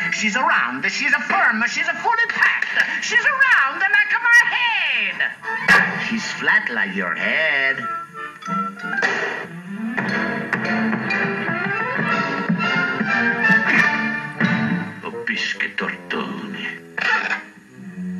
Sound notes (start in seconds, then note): 9.0 thud Thud Thud